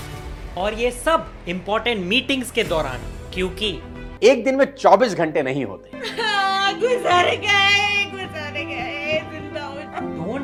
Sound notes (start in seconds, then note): 6.0 intense sobbing